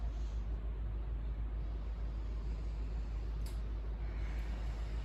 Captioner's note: inhale; exhale